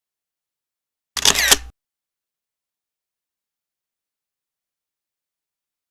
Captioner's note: camera lens snapping